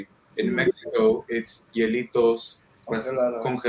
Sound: speaking in foreign language

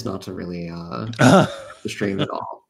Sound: laughs

